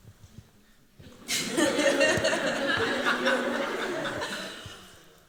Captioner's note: laughter